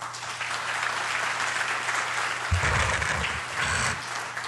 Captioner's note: applause